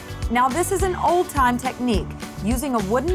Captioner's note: none